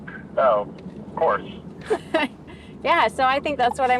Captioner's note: laughing